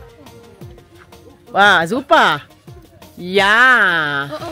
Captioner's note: speaking German